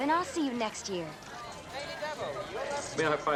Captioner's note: crowd chattering